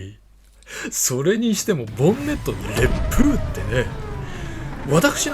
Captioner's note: strong wind